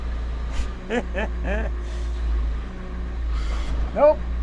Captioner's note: chuckling